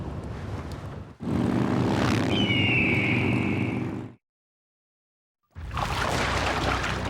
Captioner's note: motorbikes roaring; bird shrieks; water splashing